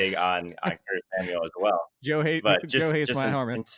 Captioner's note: laughs